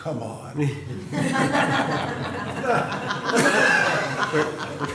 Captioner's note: laughter